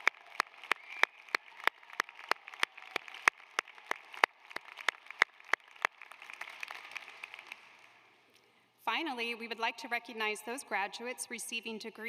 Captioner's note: applause